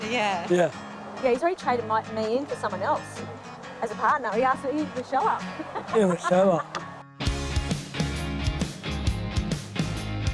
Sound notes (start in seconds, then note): 5.3 laughs; 7.2 upbeat music